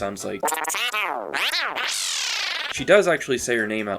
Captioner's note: Birdo noises